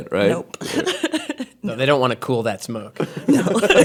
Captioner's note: laughing; laughing